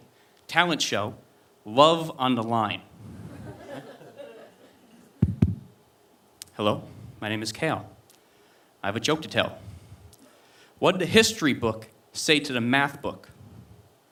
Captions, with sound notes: talent show, love on the line. (knocking) Hello, my name is Kale. I have a joke to tell. What did the history book say to the math book?